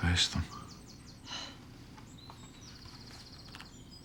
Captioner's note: sighs